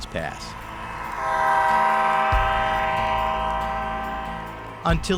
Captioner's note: horn blowing